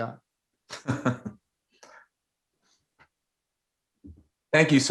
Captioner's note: laughing